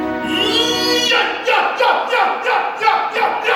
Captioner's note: Sensei grunting